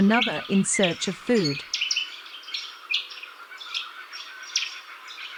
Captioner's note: birds chirping